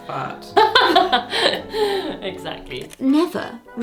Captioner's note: laughs